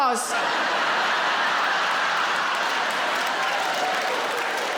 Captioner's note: audience laughing; audience applauding